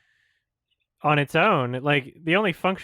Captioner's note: none